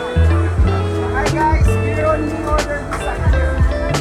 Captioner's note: staff chatter